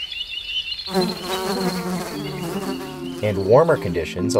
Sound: insects buzzing

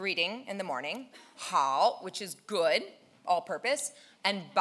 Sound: speaking in foreign language

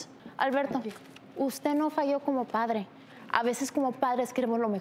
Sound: speaks in foreign language

